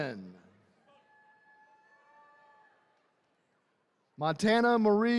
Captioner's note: attendees cheering